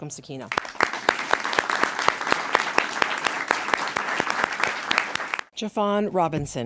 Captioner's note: applause